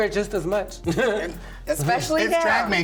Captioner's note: chuckles